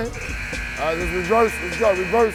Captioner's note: buzzer beeps